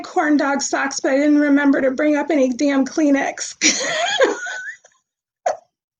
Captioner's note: laughs